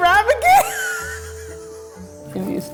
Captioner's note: laugh